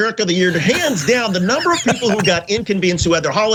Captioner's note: laugh